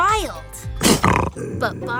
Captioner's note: snarling